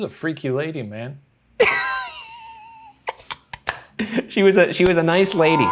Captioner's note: laughing